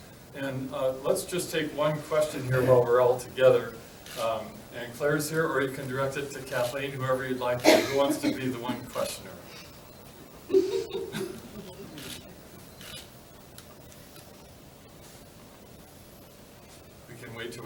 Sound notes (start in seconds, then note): 10.4 laughter; 12.4 silence